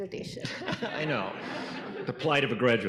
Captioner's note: audience laughing